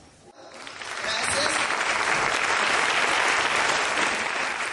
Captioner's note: applause